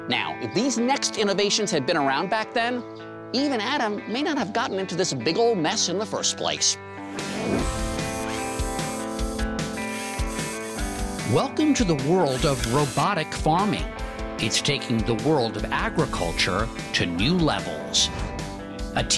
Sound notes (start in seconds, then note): 7.9 energetic music; 9.7 machine whirs